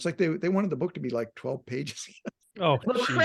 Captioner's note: laughing